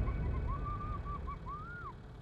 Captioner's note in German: Ferne Rufe